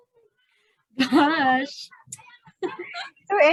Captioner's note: laughs